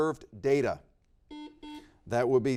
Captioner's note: buzzer beeps